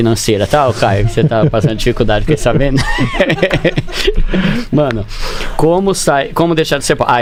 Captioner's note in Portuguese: risadas